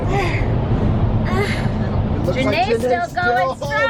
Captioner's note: pants